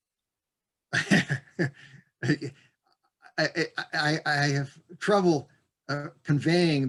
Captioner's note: laughs